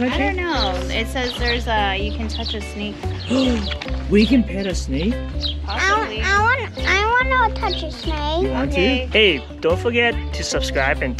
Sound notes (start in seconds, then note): 3.2 gasps